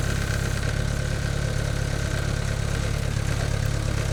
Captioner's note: motor humming